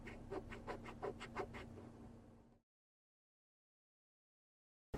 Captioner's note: eraser scratching